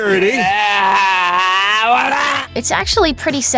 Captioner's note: grunting unintelligibly